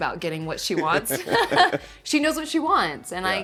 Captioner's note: laughing